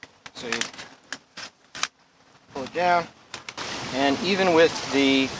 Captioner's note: wind whirring